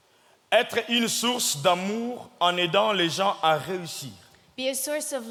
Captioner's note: speaking in French